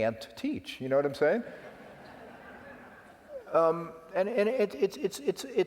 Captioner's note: laugh